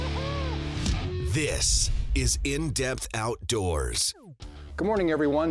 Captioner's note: voiceover